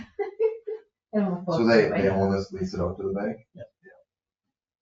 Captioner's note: laughs